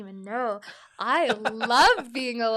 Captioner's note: laughs